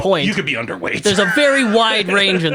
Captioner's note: laughs